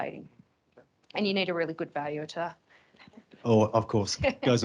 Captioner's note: chuckles